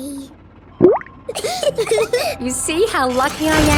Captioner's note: bubbles; laughing